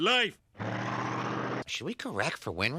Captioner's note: engine growling